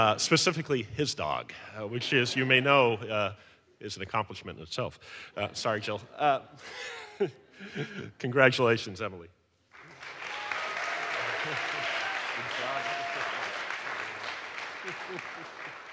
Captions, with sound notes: Specifically his dog, which is you may know, is an accomplishment in itself. Sorry, Jill (laughs) Congratulations, Emily. (audience applauds)